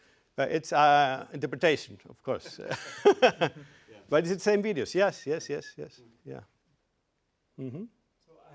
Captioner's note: laugh